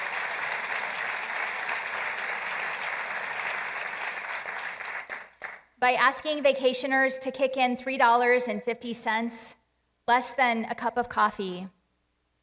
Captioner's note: applause